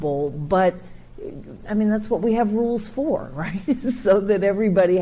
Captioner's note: chuckles